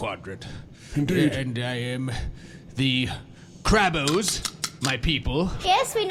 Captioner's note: snips claws